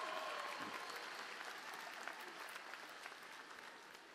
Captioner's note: applause